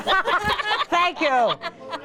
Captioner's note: laughing